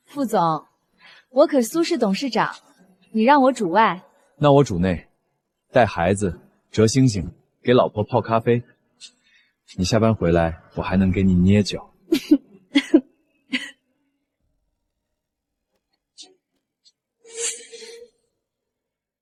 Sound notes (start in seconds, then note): 12.7 coughing